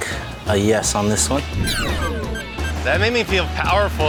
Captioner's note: timer beeping